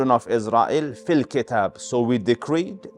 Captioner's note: Arabic